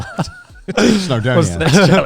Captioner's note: laughs quickly